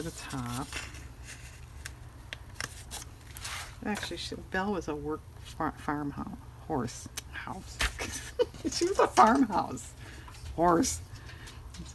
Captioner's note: laughs